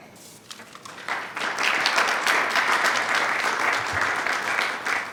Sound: attendees clapping

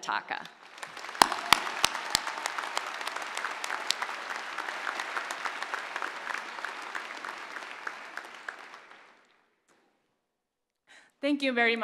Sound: applause

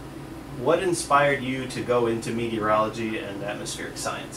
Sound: voiceover

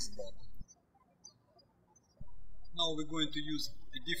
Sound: birds chirping

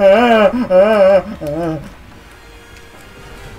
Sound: screaming stops

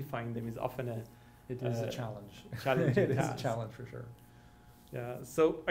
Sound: laughs

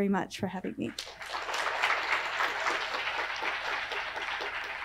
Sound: applause

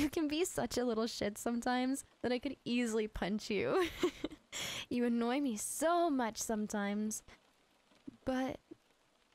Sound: giggle

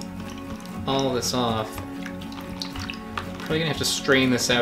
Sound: water splashes

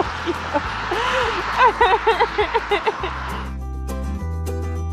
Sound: laughing; mellow music

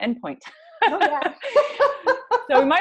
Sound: laughs

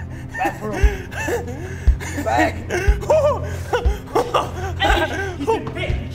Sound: Spidey laughing

